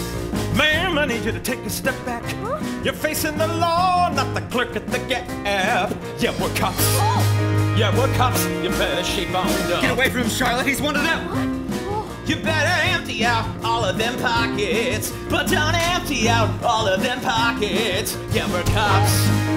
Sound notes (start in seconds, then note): 0.2 singing; 2.1 speaking; 2.6 singing; 6.6 speaking; 9.7 speaking; 11.9 singing; 15.9 slap